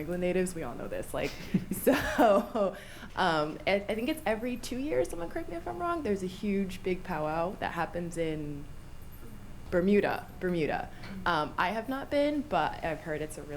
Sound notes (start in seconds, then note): 1.2 laughs